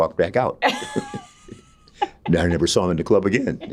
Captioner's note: both laughing